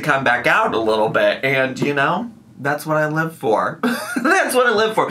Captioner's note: laughs